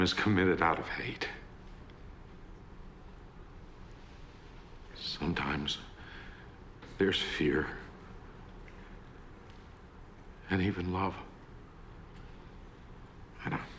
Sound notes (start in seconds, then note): none